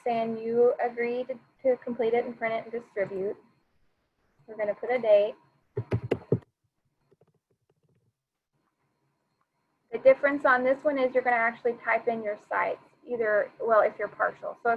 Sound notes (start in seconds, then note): 5.7 keyboard tapping